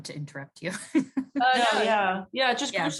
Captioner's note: laughing